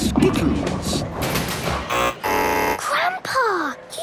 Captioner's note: buzzing